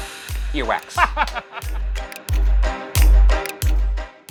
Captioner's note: laughing; upbeat mysterious music